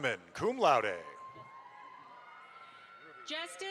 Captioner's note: audience applauds